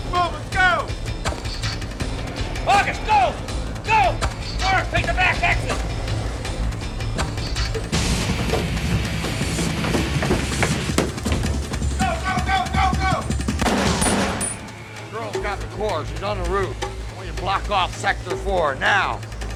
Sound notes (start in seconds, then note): 8.2 heavy metal music; 13.6 pistol firing